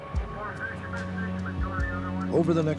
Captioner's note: police radio chatter